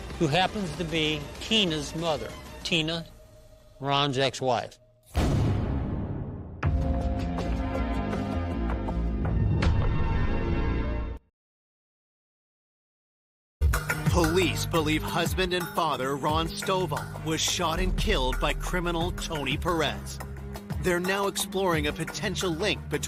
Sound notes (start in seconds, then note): 5.1 gun firing; 7.0 soft suspenseful music